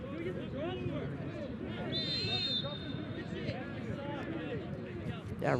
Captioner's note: whistle blows